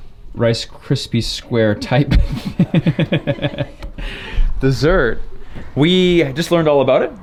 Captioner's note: laughs